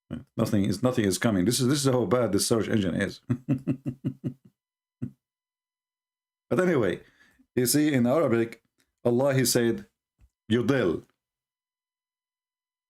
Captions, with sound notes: tiada apa-apa yang akan datang ini adalah betapa teruknya enjin carian [Ketawa] tetapi bagaimanapun anda lihat dalam bahasa arab Allah dia berkata yodel